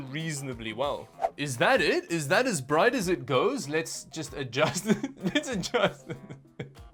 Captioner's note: laughs at the image; laughs more